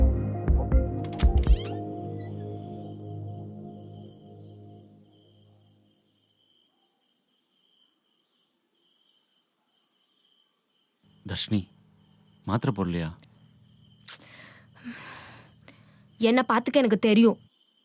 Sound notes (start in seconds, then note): 1.0 door opens